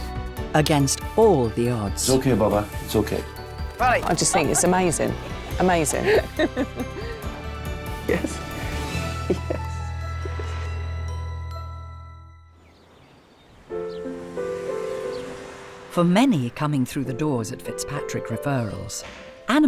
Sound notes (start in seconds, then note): 8.0 Noel chuckling; 13.8 gentle music